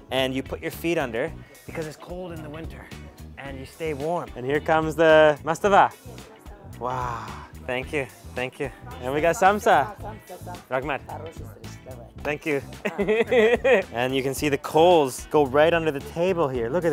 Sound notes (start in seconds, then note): 11.8 foreign language; 12.7 laughing